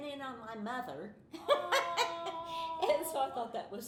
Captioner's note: laughing